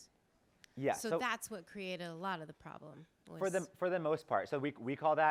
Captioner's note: feminine voice